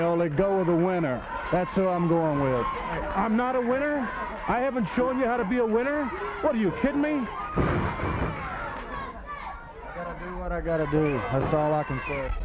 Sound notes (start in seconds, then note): 7.5 body thudding